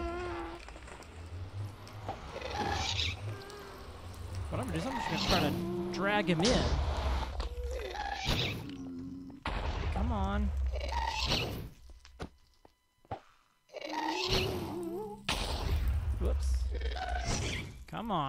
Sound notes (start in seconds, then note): 13.8 shrieking and explosions continue